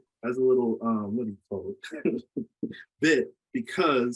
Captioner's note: laughs